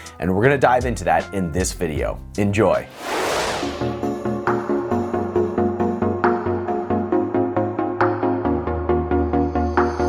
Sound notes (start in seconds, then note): 2.8 frame whooshing; 2.9 upbeat music